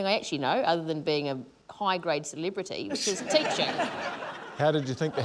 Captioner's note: laughter